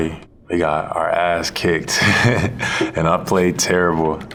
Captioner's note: laughs